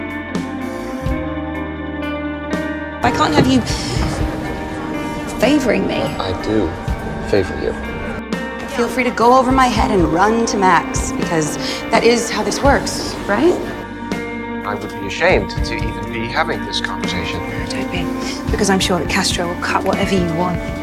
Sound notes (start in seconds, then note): 3.4 voiceover; 9.0 voiceover; 14.8 voiceover